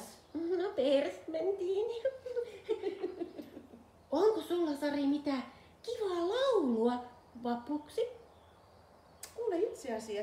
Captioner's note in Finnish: naurua